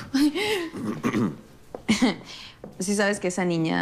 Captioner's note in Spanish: Santiago carraspea